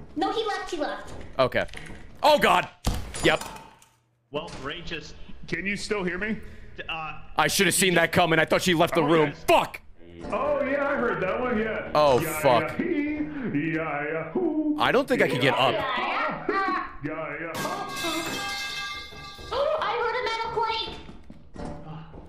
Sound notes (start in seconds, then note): 12.2 sings; 17.6 metal pipe sound; 18.8 gasps